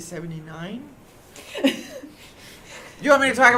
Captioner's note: laughter